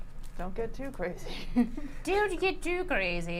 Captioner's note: chuckles